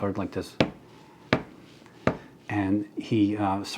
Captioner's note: Gordon knocking